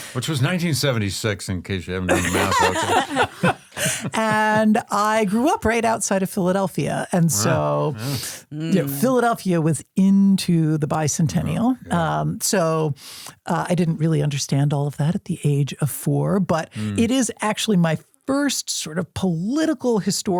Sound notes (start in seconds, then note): 2.1 everyone laughs